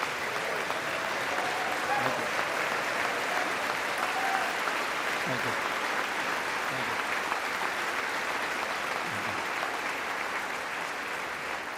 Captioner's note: applause